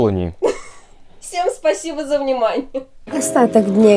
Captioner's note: laughter